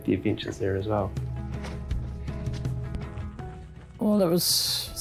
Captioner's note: footsteps crunching